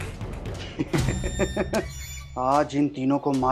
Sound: laughing

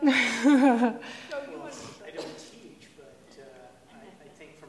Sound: laughs

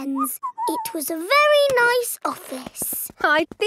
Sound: whistles

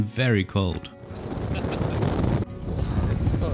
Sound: sound of the wind

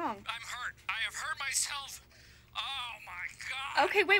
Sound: groaning

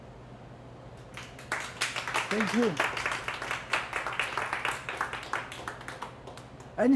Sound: applause

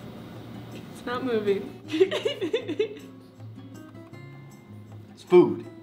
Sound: laughing

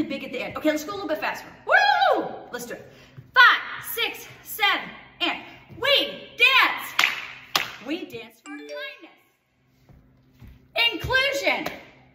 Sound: clap clap

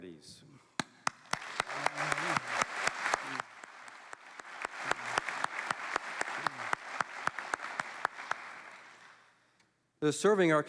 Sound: applause

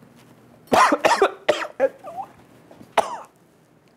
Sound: coughing

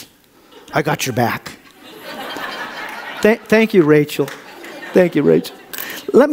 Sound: audience laughs

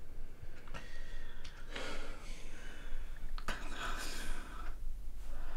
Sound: Elizabeth breathing laboriously

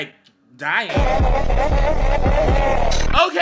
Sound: demonic laughing

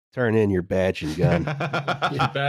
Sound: laughs

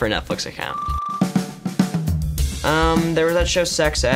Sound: beeps

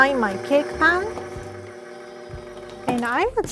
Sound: mixer vibrating

